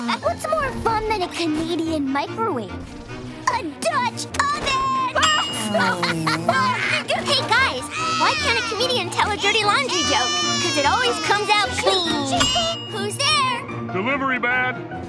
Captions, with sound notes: What's more fun than a comedian microwave? A Dutch oven! [farting and laughing] Hey guys, why can't a comedian tell a dirty laundry joke? 'Cause it always comes out clean! - Who's there? - Delivery man!